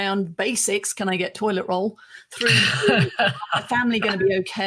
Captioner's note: chuckles